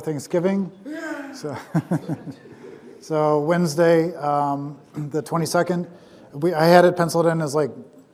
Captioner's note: laughs